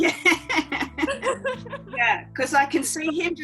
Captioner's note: chuckling